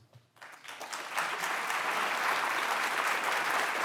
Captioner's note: applause